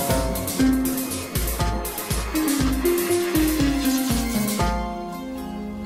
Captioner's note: none